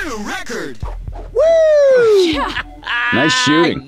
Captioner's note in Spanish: Ellis grita